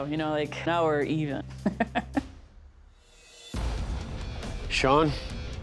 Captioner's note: laughs